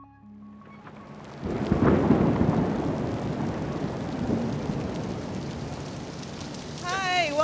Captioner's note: thunder and pouring rain